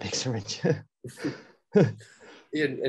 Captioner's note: chuckling